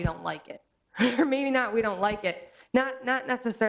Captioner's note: laughs